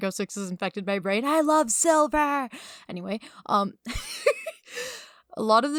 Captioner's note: giggling